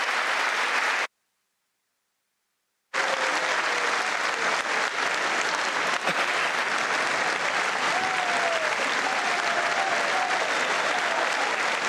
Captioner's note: applause